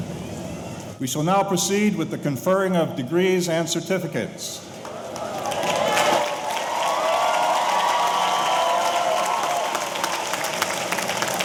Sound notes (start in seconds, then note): 4.7 audience applauding; 4.8 audience cheering